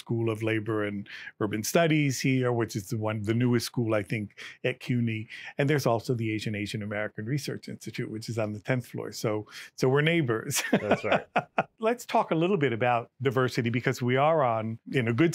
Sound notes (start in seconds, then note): 10.6 laughs